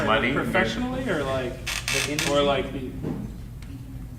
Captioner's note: clicking drowns out speaker